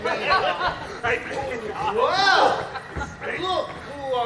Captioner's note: Friar and Will laughing